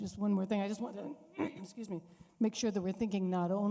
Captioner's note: clears throat